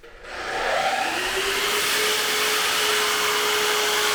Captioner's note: saw cutting